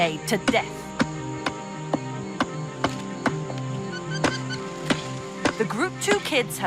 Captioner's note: wooden stick hitting rubber snake